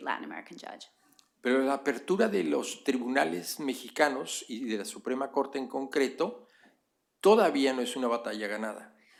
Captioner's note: speaking spanish